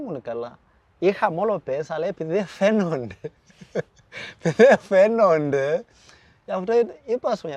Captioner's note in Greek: γέλια